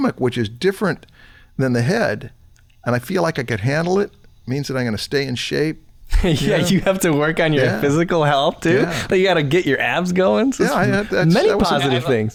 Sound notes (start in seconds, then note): 6.1 chuckles